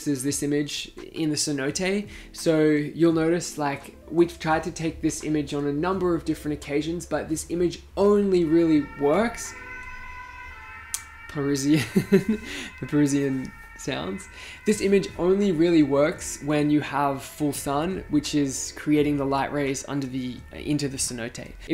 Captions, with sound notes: is this image in the Cenote. So you'll notice, like we've tried to take this image on a number of different occasions but this image only really works... (alarm sounds in distance) Parisian, the Parisian sounds. This image only really works when you have full sun which is creating the light rays into the Cenote.